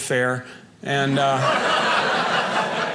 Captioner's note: audience laughing